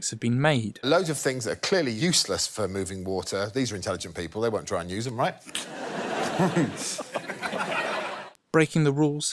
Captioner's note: laughter